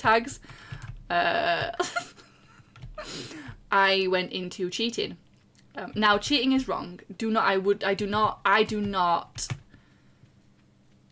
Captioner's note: laughs